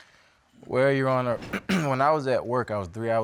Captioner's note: clears throat